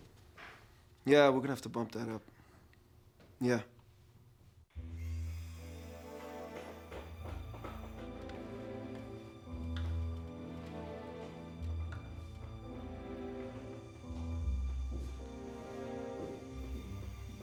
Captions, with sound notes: Yeah, we're gonna have to bump that up. Yeah. (drills whirring) (hammers banging) (slow dramatic music)